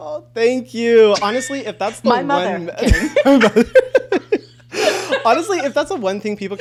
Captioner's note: laughs